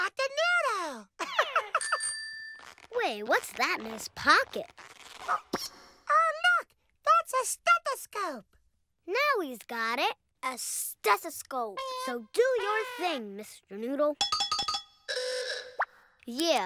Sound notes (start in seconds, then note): 1.2 laughs; 1.8 bell rings